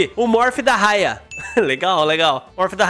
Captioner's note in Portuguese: risos